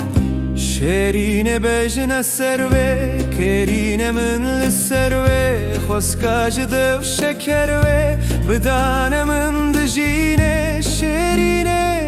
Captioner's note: a kiss